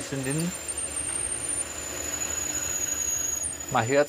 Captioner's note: high-pitched, squeaking whirring